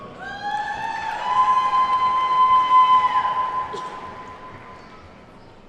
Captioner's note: attendees whooping and clapping